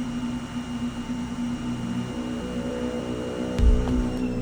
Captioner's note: devices humming